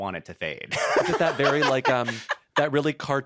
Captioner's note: laughs